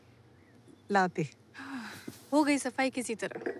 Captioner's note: Sighs